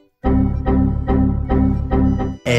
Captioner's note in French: Bruit de bug Windows x3; Bruit de bug Windows x4; Bruit de bug Windows x5; Bruit de bug Windows x7; Bruit de bug Windows x9